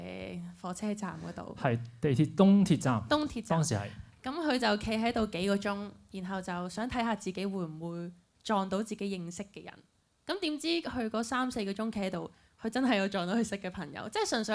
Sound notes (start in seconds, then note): none